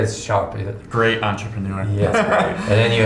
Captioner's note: laughing